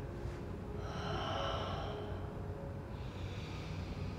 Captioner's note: breathing deeply